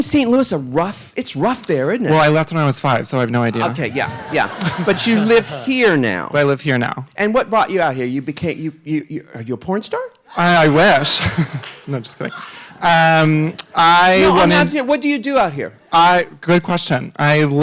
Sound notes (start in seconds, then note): 3.5 audience laughing; 10.3 laughs